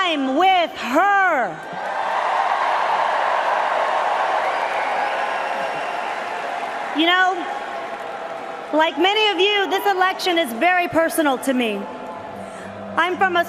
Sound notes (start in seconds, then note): 8.7 cheers and Applause